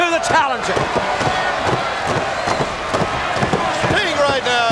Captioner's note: hands thudding on ring